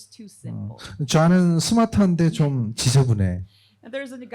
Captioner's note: speaking korean